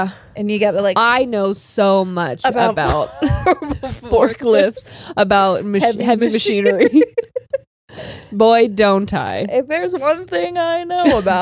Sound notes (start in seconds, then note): 5.8 all laughing